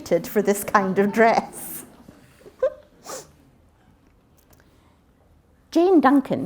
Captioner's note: interruption: laughter